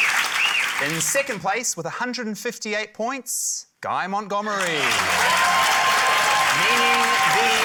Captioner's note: cheering, applause